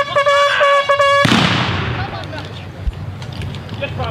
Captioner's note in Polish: Strzały